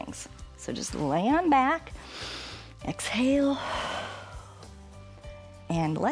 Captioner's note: exhales